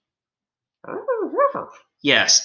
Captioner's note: Alien Space Doggy barks